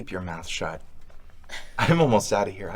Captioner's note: Lucy chuckles